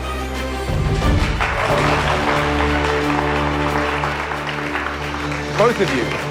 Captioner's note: applause